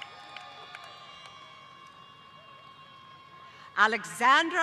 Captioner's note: applause; cheers